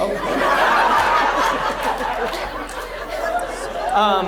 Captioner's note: audience laughs